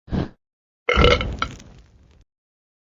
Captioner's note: Squatty burps